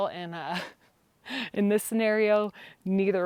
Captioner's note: laughs